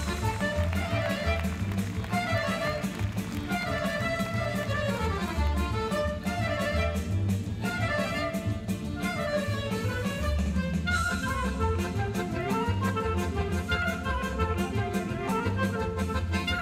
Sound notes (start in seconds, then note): 0.0 audience applauding and cheering; 8.4 folk music band plays rapidly